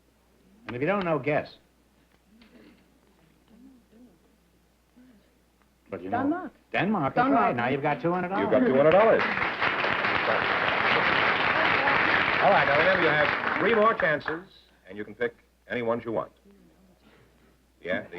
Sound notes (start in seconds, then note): 8.4 applause